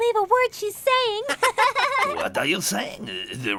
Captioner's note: all laughing